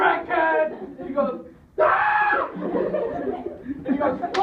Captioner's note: screams